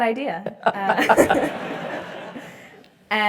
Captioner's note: laugh